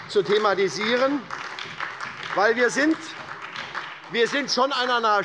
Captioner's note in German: Beifall bei der SPD